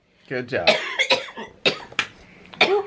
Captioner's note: coughing